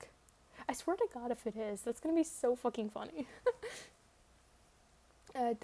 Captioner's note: laughs